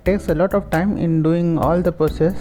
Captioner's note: Arabic; Vietnamese